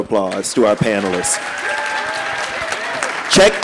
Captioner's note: audience applauding